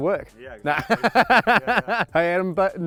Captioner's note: laughing